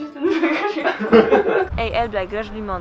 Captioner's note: laugh